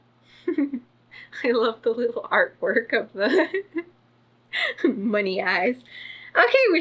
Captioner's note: laughs; laughs